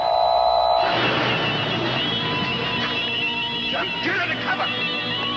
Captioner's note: object beeping